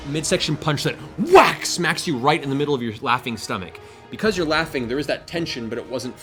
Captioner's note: whack